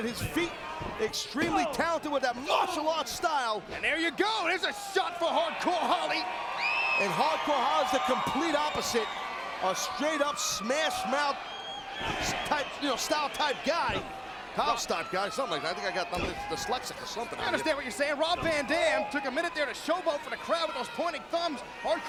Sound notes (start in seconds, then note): 6.7 crowd cheering